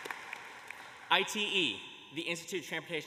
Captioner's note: applause